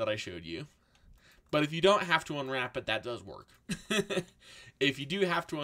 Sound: laughs

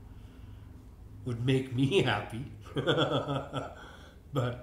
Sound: laughs

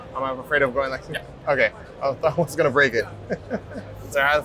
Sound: chuckles

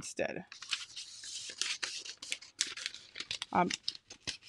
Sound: scissors cutting

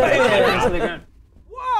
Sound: girly scream

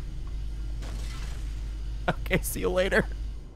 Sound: laughs

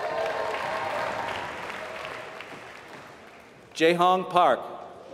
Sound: applause

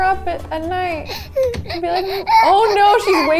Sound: baby crying

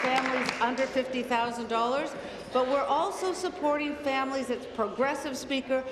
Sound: applause

